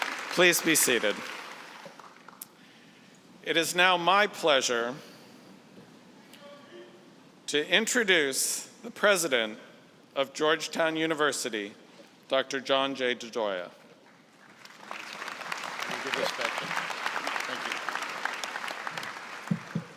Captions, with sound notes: Please be seated. It is now my pleasure to introduce the president of Georgetown University, Dr. John J. DeGioia. (applause)